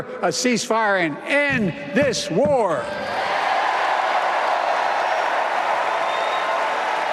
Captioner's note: applause